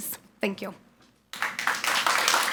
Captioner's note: people clapping